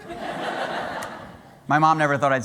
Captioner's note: laughter